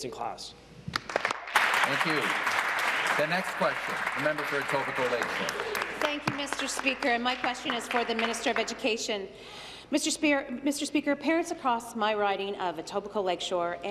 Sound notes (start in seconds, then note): 5.2 applause